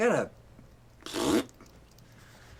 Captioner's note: blows raspberry